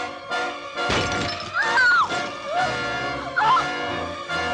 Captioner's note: screams